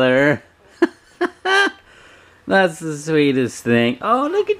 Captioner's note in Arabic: يضحك